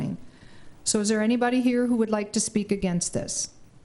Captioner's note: none